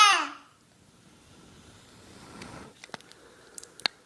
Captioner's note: baby cries out